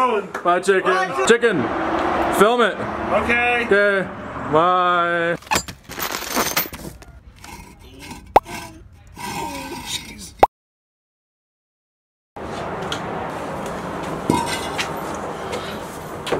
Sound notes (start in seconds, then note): 5.4 clinking; 7.7 scraping